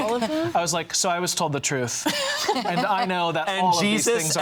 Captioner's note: laugh